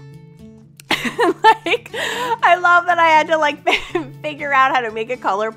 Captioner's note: laughs